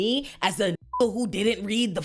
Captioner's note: beep